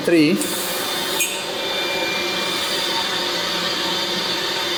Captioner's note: pipes hum